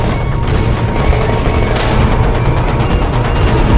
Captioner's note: gunfire blasting